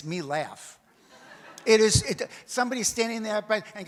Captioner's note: audience laughs